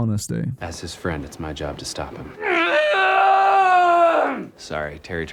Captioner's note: visceral scream